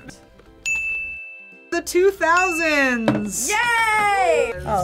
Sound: ding

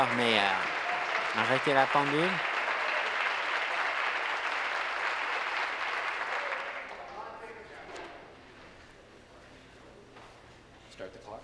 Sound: applause

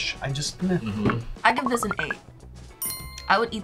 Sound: bell chimes

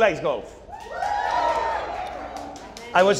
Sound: audience cheering

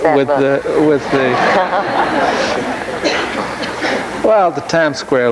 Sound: laughter

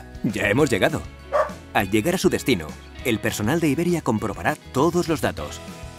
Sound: woof

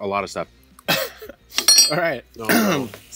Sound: laughs; spoon clanks

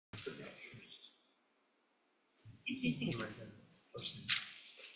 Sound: audience quietly talking

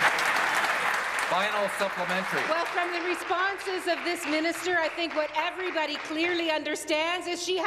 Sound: applause

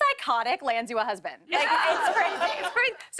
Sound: laughter

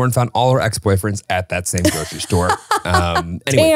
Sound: laughs

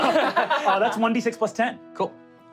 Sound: laughing

